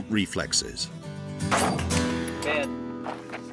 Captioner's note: gun firing